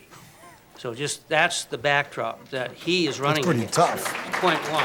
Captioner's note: audience applause